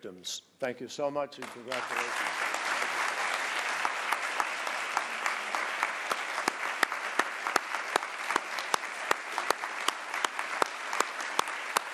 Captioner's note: applause